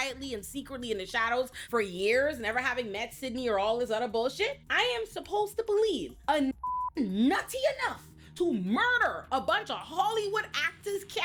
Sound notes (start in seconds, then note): 6.5 beep